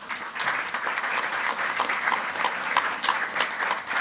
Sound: group applauding

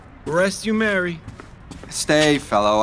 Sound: footsteps departing

